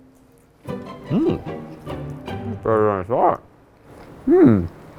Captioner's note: speaking with mouthful